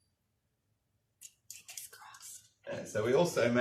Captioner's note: whispers